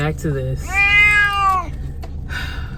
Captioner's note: meow